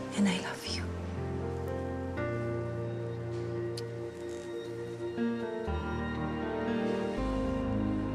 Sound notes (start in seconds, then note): 0.0 morose music continues; 3.7 smooches; 6.3 morose music continues